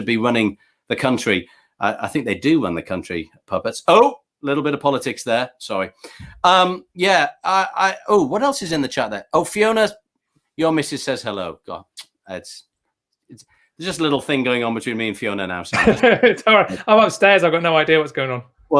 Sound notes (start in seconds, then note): 15.7 laughs